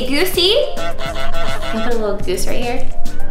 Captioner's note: goose honking